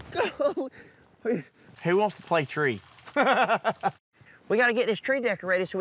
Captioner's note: laughing